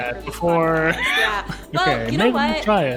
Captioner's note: laughing